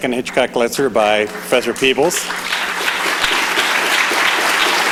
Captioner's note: clapping